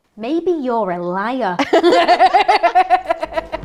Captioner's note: they laugh